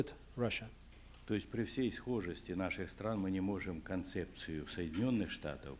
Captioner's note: non-english speech